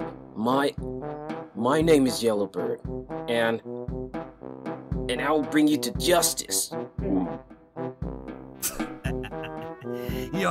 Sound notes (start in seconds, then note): 8.6 chuckles; 8.7 gags